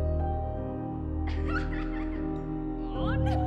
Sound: laughing

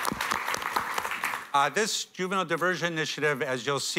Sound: applause

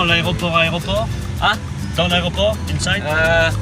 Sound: speaking in French

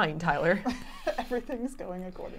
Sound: chuckling

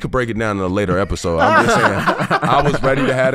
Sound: laughing

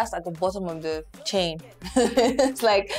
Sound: laughs

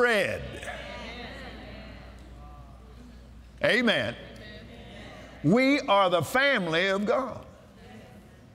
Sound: audience "Amens"

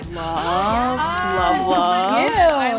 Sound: gasps

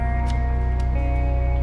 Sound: key goes into ignition

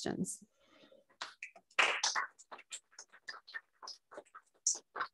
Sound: applause

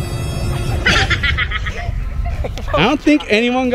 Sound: laughing

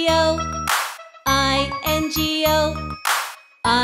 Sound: loud clap; loud clap

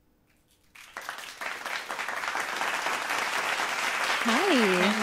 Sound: applause

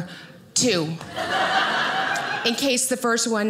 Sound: audience laughing

